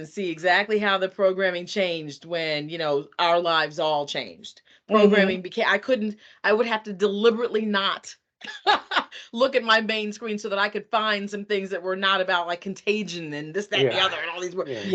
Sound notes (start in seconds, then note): 8.4 laughing